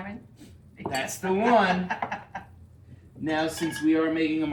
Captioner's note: laughing